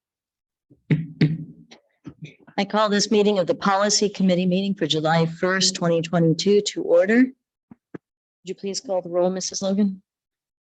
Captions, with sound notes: (gavel pounding) - I call this meeting of the Policy Committee Meeting for July 1st, 2022 to order. Would you please call the roll, Mrs. Logan?